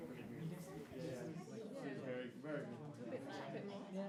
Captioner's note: crowd softly chatters